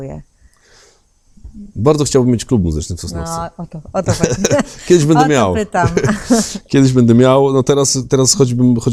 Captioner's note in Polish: śmiech